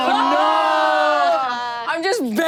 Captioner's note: everyone groans